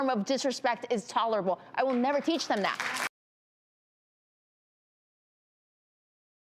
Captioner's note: audience applauding